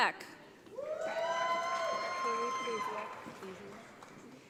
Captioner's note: audience applauds